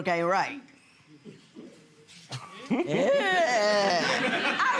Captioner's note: laughing